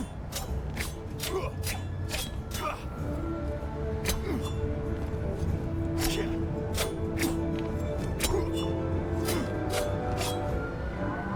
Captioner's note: grunting